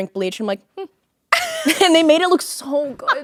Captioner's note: Courtney laughing